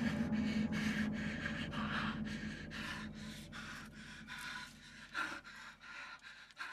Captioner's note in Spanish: Sound respiración pesada